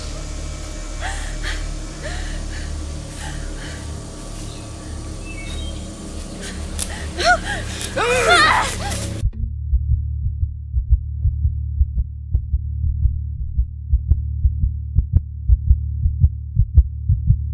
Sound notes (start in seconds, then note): 0.0 Martha gasping; 6.7 twig snapping; 6.7 both yelling